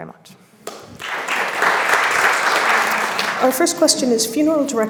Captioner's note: audience applauds